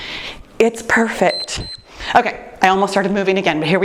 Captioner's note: timer beeps